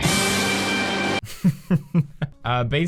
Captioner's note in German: lacht